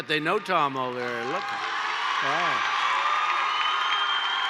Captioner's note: applause